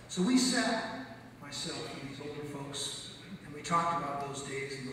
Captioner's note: none